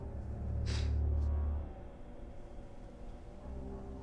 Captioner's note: huffs